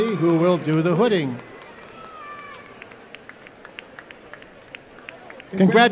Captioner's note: applause